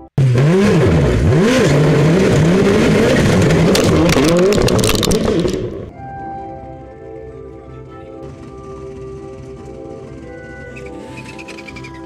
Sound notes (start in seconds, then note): 2.2 race car engine revving and sputtering; 7.4 relaxing instrumental music